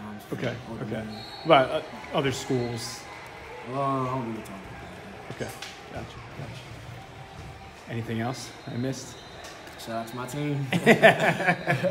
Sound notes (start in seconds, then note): 10.7 laugh